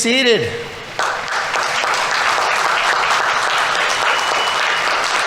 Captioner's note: audience applauding